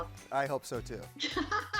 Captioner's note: laughs